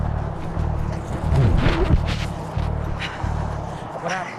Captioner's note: mic rustling